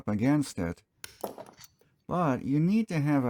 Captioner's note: pop